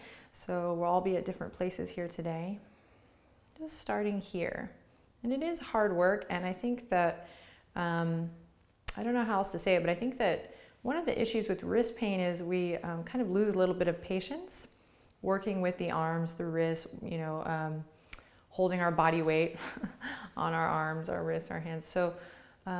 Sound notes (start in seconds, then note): 19.6 giggles